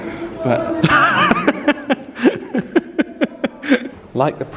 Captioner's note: laughs